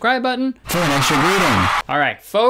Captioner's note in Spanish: Voz automatizada